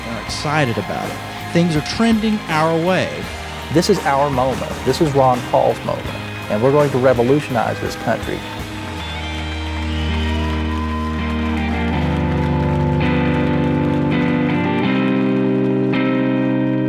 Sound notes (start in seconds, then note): 5.3 cheers fade down